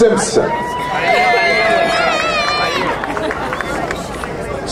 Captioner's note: crowd cheering